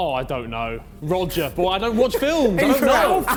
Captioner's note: men laughing